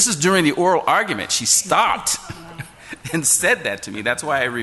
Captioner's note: laughs